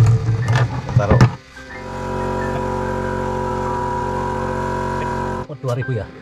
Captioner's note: mini compressor sound